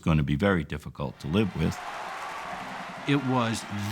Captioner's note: cheering